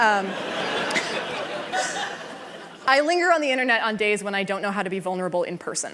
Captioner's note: laughter